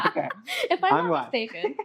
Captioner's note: laughter